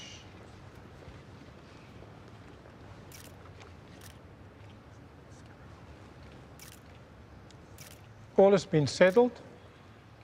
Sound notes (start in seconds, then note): none